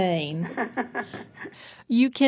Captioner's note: laughs